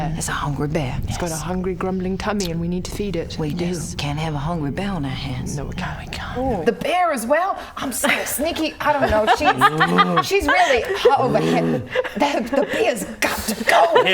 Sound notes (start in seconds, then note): 9.4 bear growl